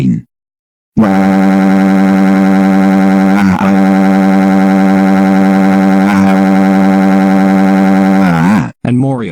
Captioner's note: Ernesto de la Cruz crying